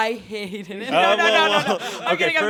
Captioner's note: laughing